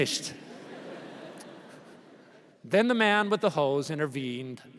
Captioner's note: laughter